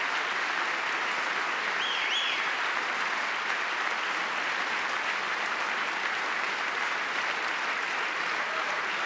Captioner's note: applause